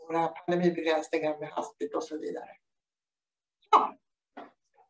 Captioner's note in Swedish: Ljud borta